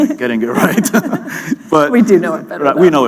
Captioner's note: laughter